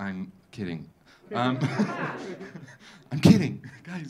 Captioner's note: audience laughing